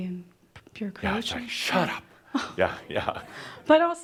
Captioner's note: Adamus chuckles